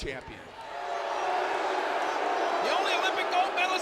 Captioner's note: audience booing